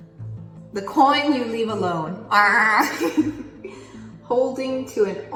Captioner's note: laughs